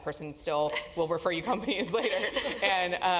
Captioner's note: laugh